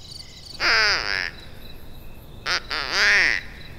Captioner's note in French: sons de canard